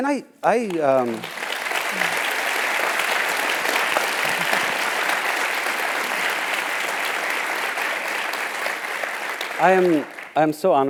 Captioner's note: applause